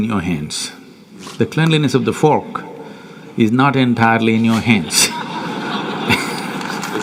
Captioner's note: laughter/Applause